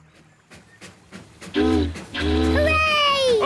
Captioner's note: boat horn honking; chugging